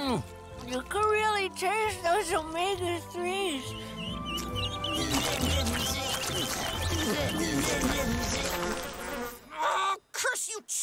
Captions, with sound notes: You can really taste those Omega 3s. [chirping] [buzzing] Oh, curse you, Chad,